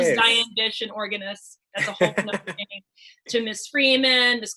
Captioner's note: laughs